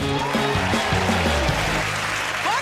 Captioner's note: cheers and applause